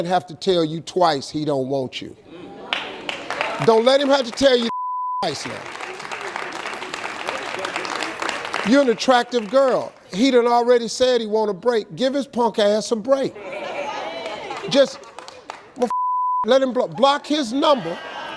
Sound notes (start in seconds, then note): 4.7 beep; 5.2 audience claps; 15.9 beep